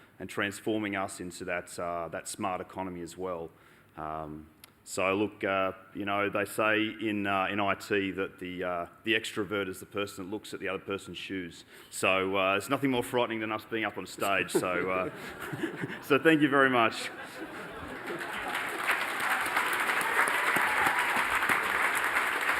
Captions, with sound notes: and transforming us into that smart economy as well. So, look, you know, they say in IT that the extrovert is the person that looks at the other person's shoes. So there's nothing more frightening than us being up on stage. (LAUGHTER) So thank you very much. (APPLAUSE)